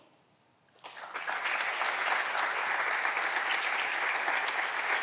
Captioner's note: clapping continues